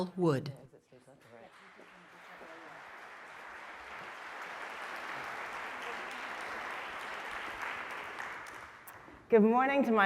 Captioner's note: applause